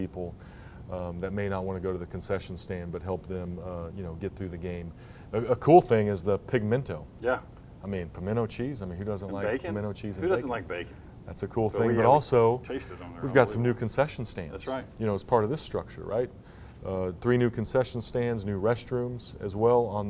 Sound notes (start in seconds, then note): 11.7 mumbles